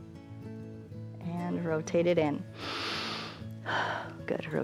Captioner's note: inhales and exhales